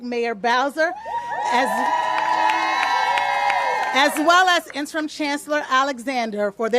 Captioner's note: applause